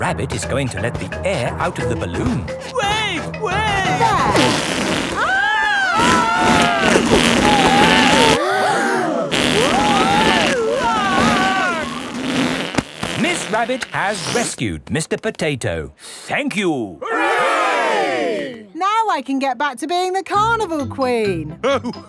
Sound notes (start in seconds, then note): 5.1 both screaming; 8.8 crowd gasps; 10.5 screaming